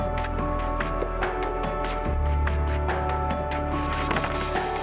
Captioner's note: pictures whirring